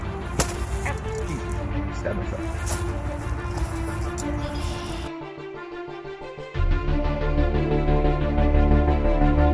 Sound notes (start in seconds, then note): 0.3 sword thuds; 0.9 groans